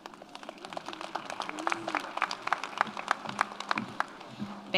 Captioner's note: audience applauds